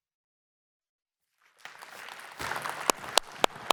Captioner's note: applause